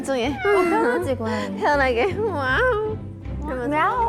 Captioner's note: Cat Natty meow